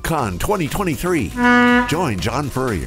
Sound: horn blows

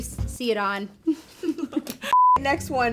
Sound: both laughing

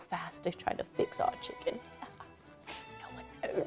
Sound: laughs quietly

